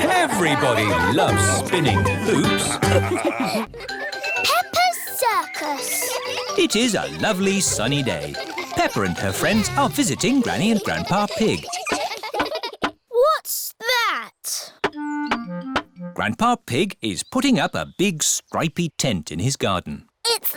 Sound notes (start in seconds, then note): 3.6 children giggling; 12.3 all giggling